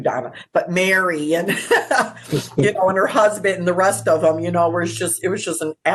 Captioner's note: laughs